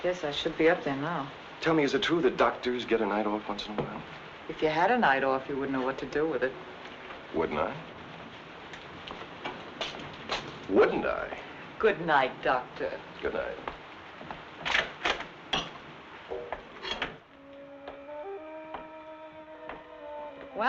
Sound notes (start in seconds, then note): 14.6 door rattling; 16.3 door thumping; 17.3 suspenseful music; 18.6 footsteps thumping